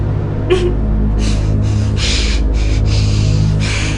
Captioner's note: crying